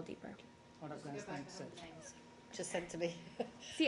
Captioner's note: laughter